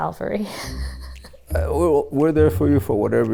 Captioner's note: laughing